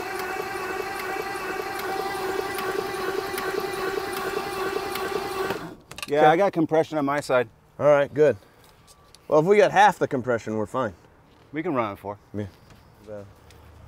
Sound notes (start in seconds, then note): 0.0 vehicle engine clicking; 5.4 vehicle engine stops